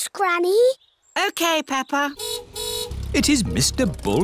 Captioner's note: car horn honks